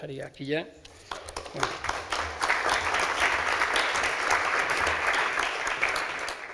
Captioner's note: applause